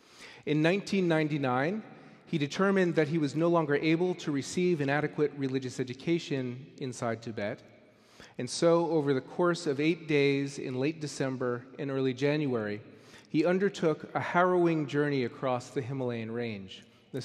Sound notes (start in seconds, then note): none